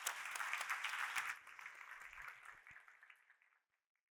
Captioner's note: audience applauding